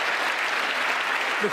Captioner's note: applause